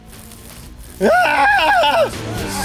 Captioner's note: gay scream